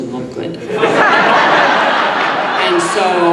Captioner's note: audience laughing